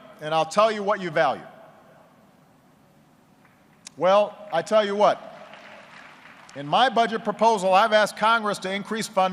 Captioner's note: applause